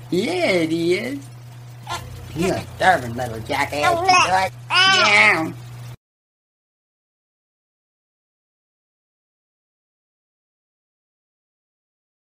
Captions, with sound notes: yeah it is [cute baby noises] you're a stubborn little jackass ya know it?!